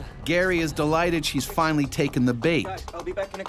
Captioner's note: voiceover